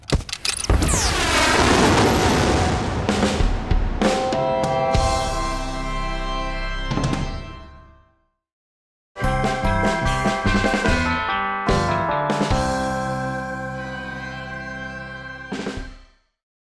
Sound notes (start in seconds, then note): 0.6 blasting off